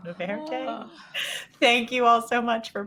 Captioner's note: all groaning